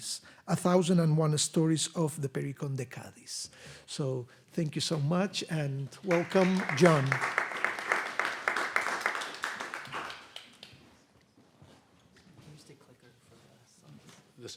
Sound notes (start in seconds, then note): 6.0 audience applauding